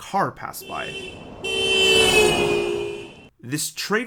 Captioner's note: car horn honking